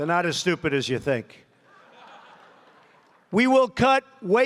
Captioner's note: laughter